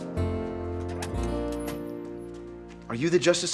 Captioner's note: opening door